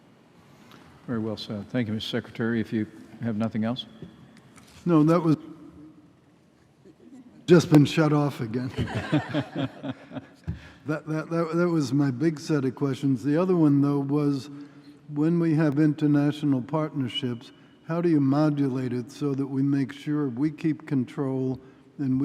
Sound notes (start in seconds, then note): 8.6 laughter